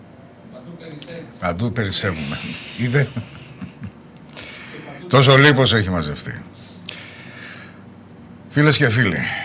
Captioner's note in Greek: γέλια